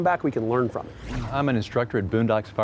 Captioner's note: whooshing